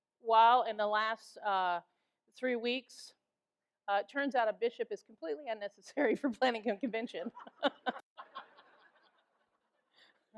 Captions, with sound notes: Well in the last three weeks, turns out a bishop is completely unnecessary for planning a Convention. (laughs) (audience laughs)